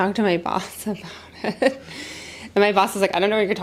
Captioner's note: laughs